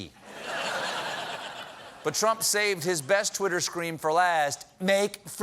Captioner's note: laughter